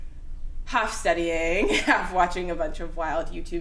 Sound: laughs

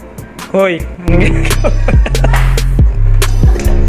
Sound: laugh

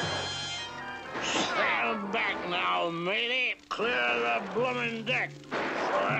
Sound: slurred

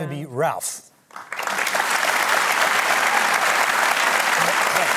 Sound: applause

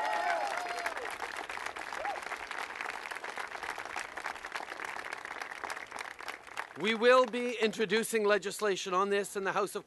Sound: cheers & applause

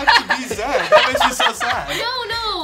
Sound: laughs

